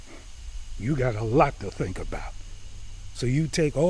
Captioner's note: scoffs